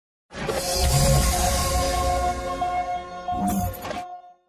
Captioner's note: electrical glitch noise